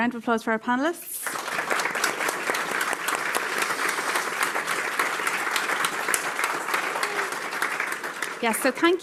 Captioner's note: applause